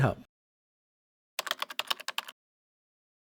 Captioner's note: typing